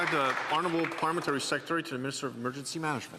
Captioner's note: applause